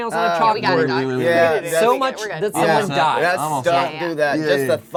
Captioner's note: disgusted mumbling